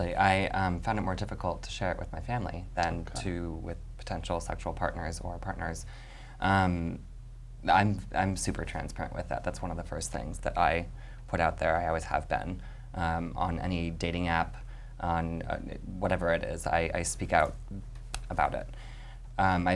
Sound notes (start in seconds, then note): none